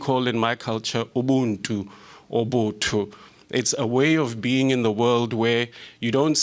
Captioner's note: non-english speech